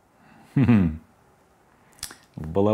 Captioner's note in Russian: смешок